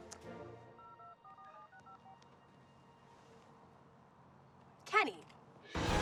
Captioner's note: phone beeping